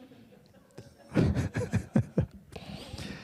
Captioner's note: audience laughing